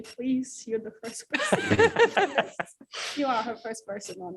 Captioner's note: laughter